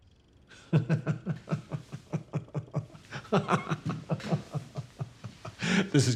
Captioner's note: Hank laughs